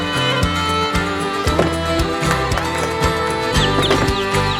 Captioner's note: birds; applause; impact; birds